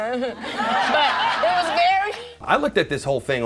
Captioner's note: audience laughs; guffaws